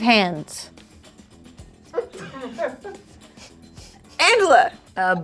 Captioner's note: quirky music; snickering